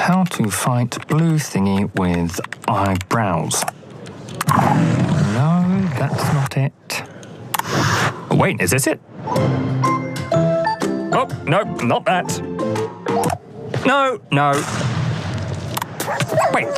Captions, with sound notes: Let's see, "How to fight blue thingy with eyebrows." [Growling] No, that's not it. Wait, is this it? [Whimsical music] Oh, no. Not that. No, no.